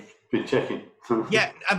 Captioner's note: murmurs